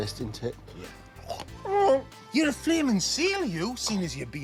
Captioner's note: whimpering